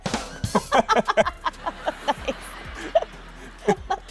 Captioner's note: laugh track playing